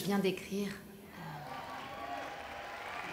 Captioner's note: clapping